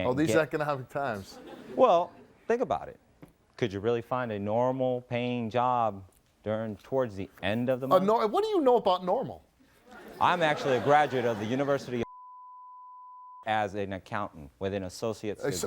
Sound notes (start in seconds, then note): 12.7 beeping